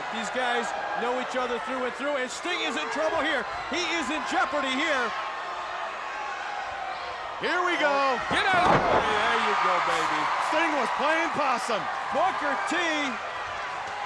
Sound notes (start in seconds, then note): 5.1 crowd yelling